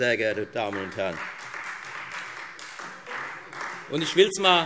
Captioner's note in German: Beifall Freie Demokraten